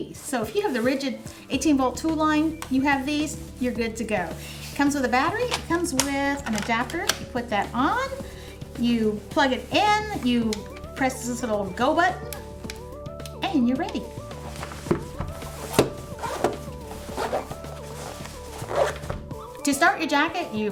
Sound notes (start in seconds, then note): 14.6 thuds; 16.7 zips